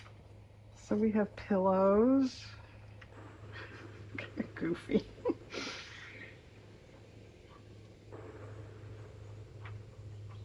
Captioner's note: laughs